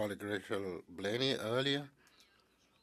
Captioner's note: speaking French